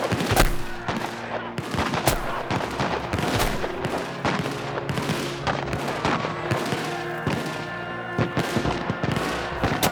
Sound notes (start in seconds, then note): 1.5 heavy gunfire throughout; 6.5 distant screaming of men